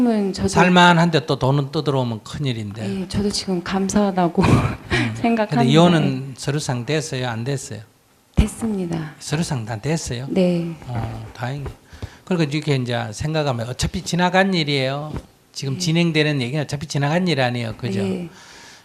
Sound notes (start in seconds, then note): 4.9 questioner Laughter